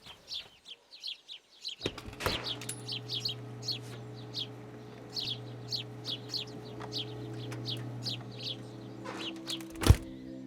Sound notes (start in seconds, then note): 1.6 machines whir